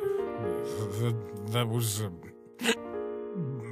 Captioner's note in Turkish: hıçkırır